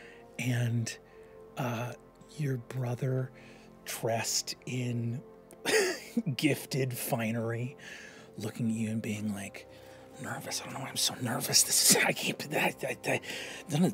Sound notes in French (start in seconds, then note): 5.7 rires; 13.1 bégaie